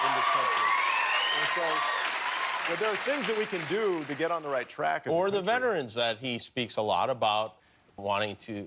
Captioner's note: cheers and applause